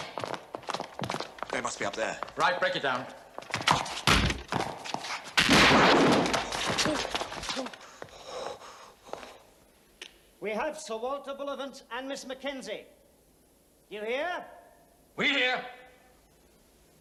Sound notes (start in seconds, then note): 5.4 gunshot